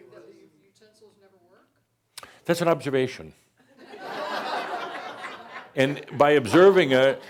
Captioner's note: more laughter